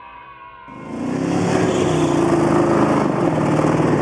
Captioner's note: car running